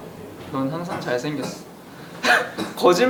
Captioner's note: 기침; 콜록콜록